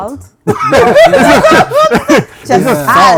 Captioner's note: laughter